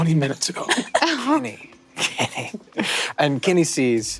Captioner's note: chuckles